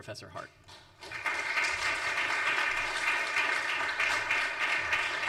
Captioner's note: audience applauds